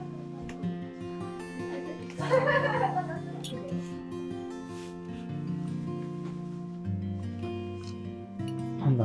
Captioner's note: laughs